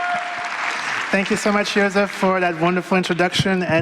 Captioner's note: applause